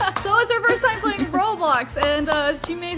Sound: giggles

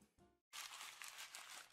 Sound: sounds of paper

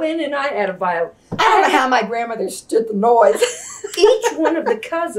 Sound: laughs

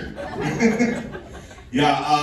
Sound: laughing

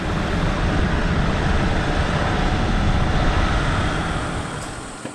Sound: drone

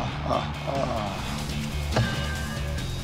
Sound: clanging

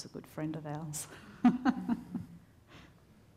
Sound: laughs

